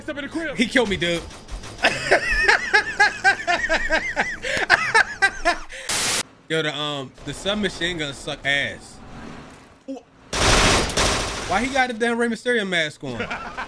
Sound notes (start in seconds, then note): 1.7 both men laughing; 10.3 gun firing